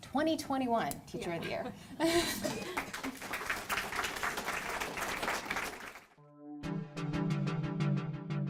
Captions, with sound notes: 20-21 Teacher of the year. (laughing) (audience clapping)